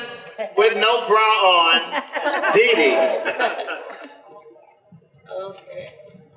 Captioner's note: audience laughter